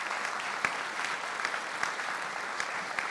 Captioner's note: applause